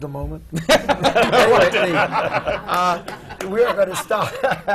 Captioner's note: laughter; laughs